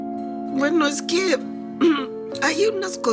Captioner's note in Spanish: Carraspea